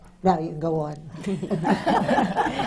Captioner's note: laughter